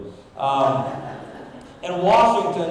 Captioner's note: audience laughing